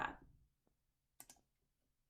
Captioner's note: click